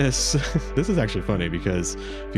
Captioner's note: laughs